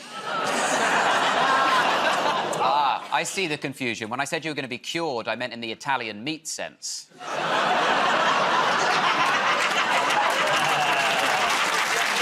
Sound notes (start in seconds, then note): 0.1 laughter; 9.9 laughter